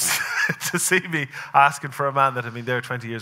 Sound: laughing

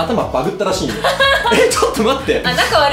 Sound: laughs

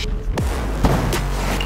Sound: bang!

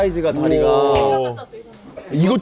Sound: whispering

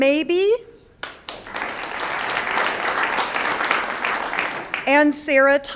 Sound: audience applauds

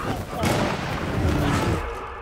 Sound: yelling; shot fired

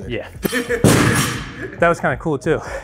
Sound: weights hit floor

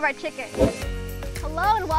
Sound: fast wind sound

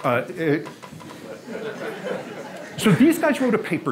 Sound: audience laughs

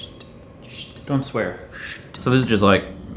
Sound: mimicking razors shaving

